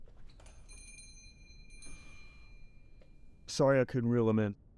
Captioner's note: door bell rings